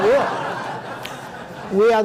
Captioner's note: audience laughing